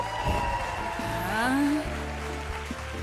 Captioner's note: cheers and applause